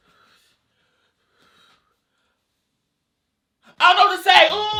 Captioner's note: heavy breathing